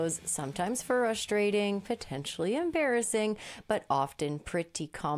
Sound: none

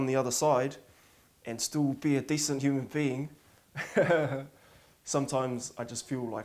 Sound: laughs

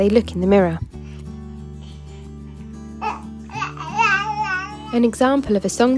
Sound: baby babbling sound

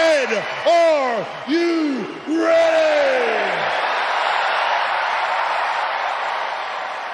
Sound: cheering

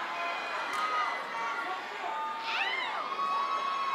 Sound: cheering

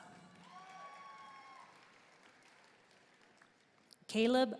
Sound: audience cheering and applauding

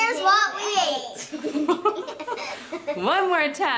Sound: laughing

